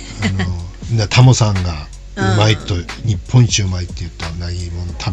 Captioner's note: laughs